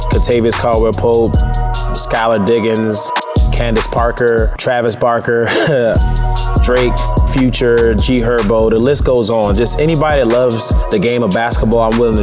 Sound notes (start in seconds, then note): 5.4 chuckles